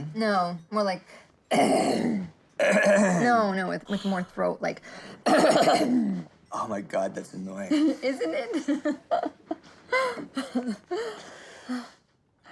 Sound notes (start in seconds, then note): 1.1 deep raspy grunt; 2.4 scratchy grunt; 4.9 hoarse grunting; 7.7 laughing